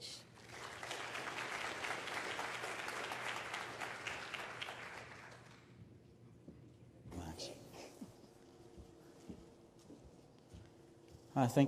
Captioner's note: applause